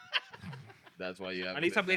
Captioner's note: laughing